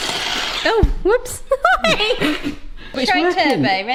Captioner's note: whisk whirring; laughs